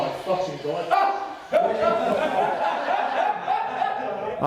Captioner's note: all laughing